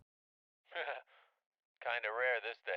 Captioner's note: Louie laughs